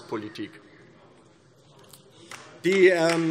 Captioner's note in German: Beifall DIE LINKE